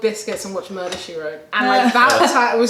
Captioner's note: laughter